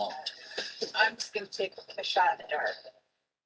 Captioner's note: fast Spoken Woman